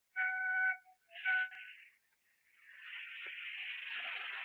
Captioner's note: train whistle blowing